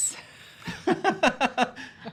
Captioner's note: laughing